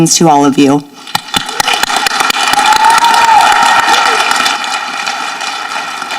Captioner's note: people applauding and cheering